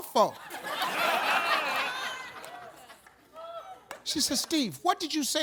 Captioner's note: audience laughs